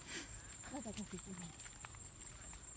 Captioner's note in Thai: เสียงจิ้งหรีด